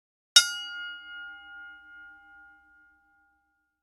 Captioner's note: bell dings